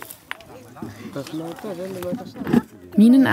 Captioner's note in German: Stimmengewirr